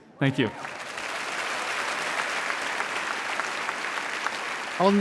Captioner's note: audience applauding and cheering